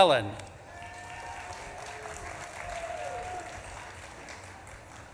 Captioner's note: audience claps and cheers